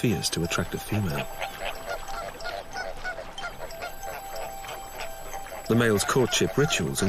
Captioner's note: squawking